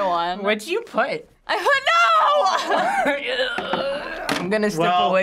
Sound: laughs

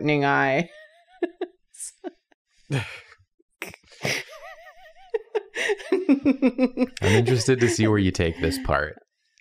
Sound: laughs

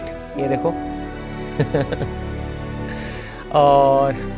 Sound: chuckles

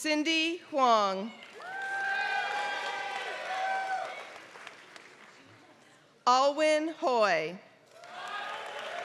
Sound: applause; applause

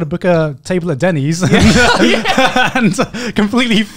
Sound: laughing

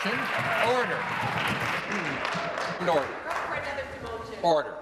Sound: applause

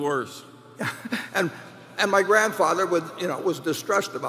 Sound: laughs

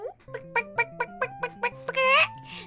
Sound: chicken Sound

